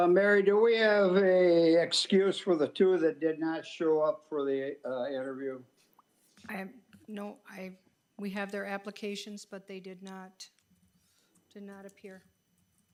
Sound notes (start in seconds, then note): none